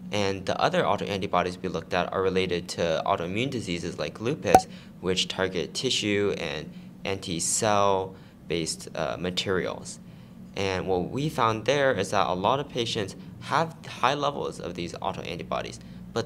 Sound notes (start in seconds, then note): 4.5 pop